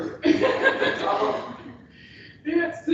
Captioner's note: laughter